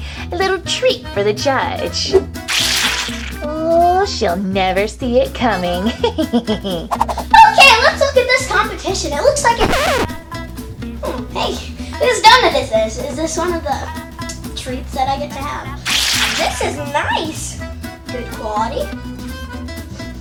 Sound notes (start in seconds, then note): 6.7 laughs; 9.6 scratch sound